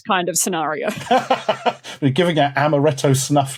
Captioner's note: laughs